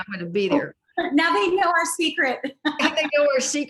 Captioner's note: laughs